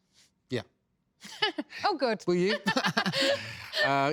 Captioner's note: laughs